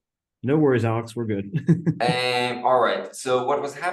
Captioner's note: laughs